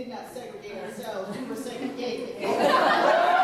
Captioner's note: laughter